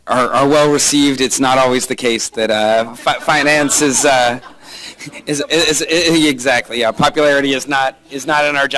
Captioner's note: laughter